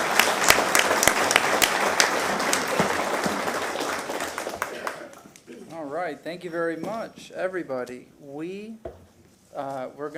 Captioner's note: applause